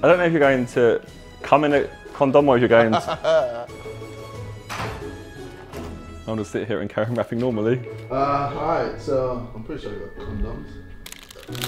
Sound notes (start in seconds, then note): 2.8 JJ laughing